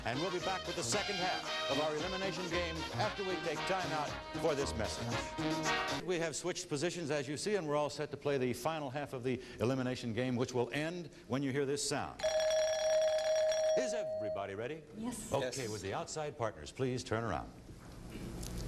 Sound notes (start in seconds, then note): 4.8 theme music playing; 12.3 chiming